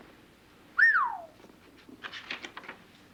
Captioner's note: whistles